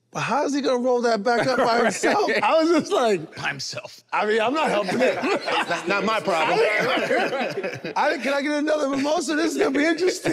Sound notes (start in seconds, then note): 4.6 laughing amusingly